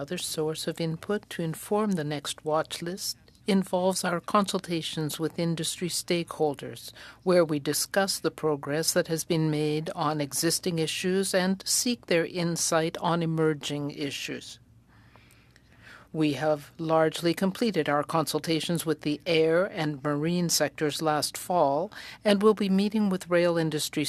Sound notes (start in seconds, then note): 6.6 speaking French